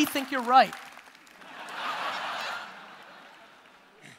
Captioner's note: audience laughter